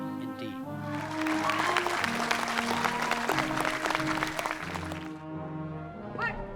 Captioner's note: applause